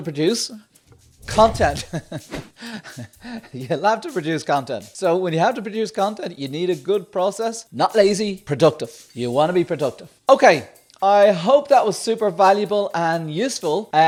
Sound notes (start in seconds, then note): 1.6 laughing